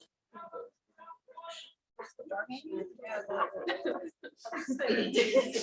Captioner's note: background chatter